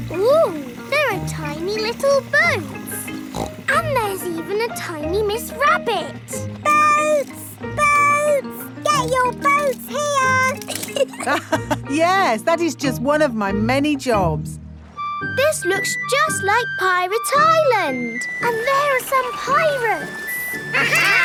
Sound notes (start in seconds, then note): 3.0 snorts; 10.6 laughs